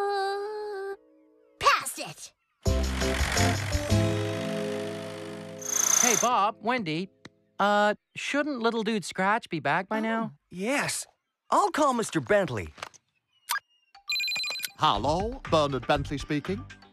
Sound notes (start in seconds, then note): 14.0 phone Beeping